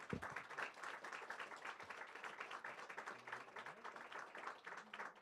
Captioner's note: audience claps